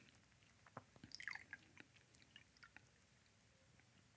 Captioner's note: pouring liquid